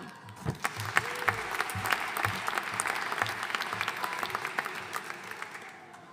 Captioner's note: audience cheering and applauding